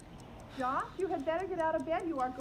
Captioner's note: voiceover